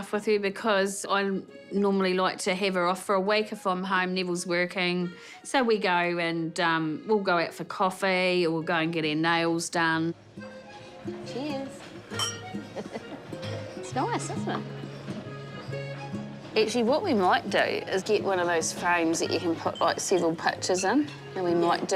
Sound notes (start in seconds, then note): 12.5 chuckles